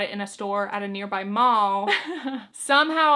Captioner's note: chuckles